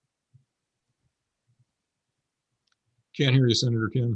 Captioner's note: silence